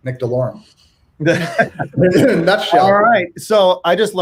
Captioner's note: laughs